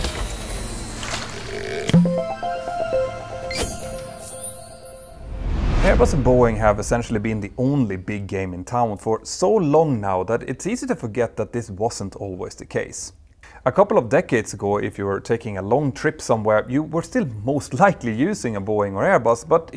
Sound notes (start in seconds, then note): 1.9 playful chime